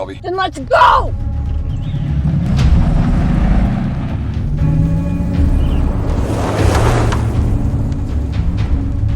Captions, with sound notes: - Then let's go! (engine revs)